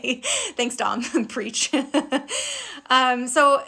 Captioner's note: laughing